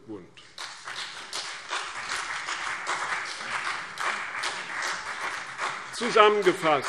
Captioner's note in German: Beifall CDU und BÜNDNIS 90/DIE GRÜNEN